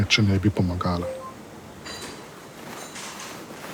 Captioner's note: message sound